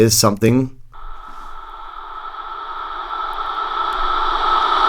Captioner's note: ominous reverb